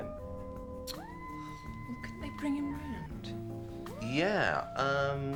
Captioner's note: tuts